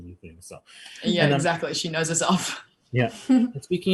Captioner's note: laughs